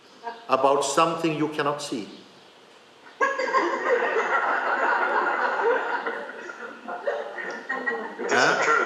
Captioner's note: laughter